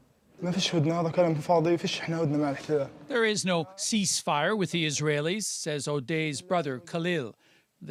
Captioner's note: speaking alternate language